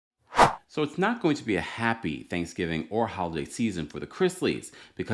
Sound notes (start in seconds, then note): 0.3 air whooshing